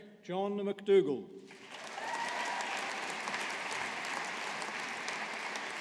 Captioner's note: audience applauding